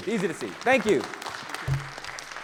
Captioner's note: audience applauding